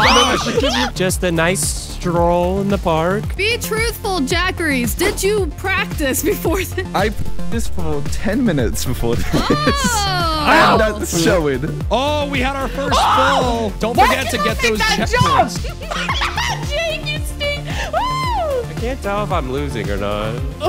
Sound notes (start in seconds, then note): 0.0 screaming; 8.8 laughing; 20.5 yelling